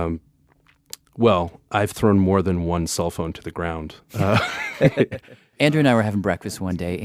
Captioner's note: laughs